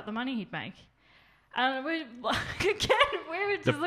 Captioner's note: laughs